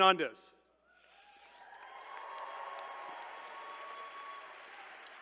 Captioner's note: attendees cheering